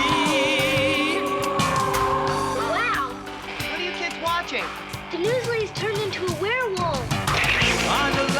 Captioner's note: cheering